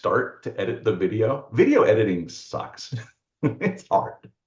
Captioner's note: laughs